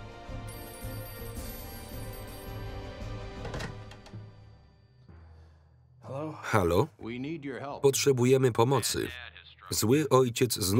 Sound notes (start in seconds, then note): 0.4 phone rings; 7.1 voiceover